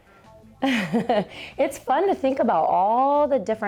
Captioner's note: laughs